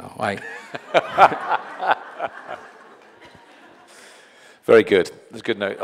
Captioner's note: audience laughing